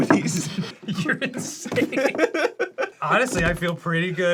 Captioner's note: both laugh